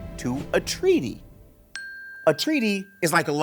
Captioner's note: bell dinging